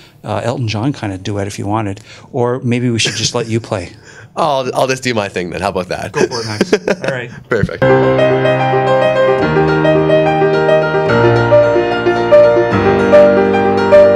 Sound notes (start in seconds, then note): 6.1 laughs; 7.7 piano Music